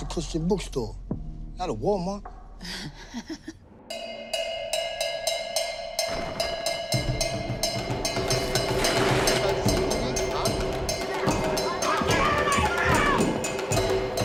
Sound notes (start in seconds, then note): 2.9 laughs; 4.8 percussive music